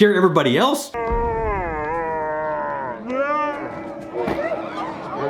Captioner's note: slow-motion yelling